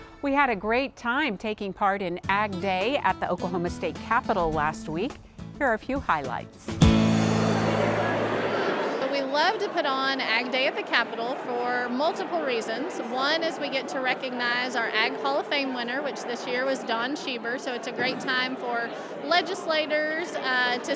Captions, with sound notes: - We had a great time taking part in Ag Day at the Oklahoma State Capitol last week. Here are few highlights. (crowd chattering) - Well, we love to put on Ag Day at the Capitol for multiple reasons. One is we get to recognize our Ag Hall of Fame winner, which this year was Don Schieber, so it's a great time for legislators